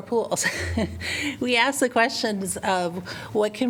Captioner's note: laughter